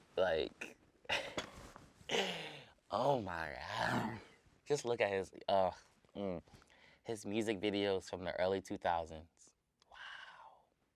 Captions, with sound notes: Like, (laughs) oh, my God. Just look at (groans) his music videos from the early 2000s, wow.